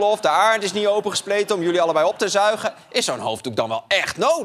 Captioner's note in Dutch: gelach